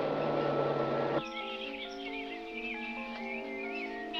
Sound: dramatic music; birds chirping

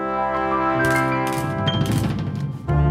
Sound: photos clicking

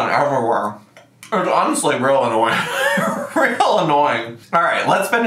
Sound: laughs

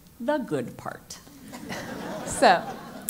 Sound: laugh

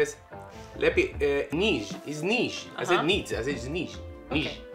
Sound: dad speaks in Polish

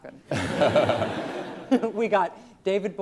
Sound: students laughing

